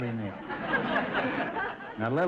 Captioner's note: audience laughter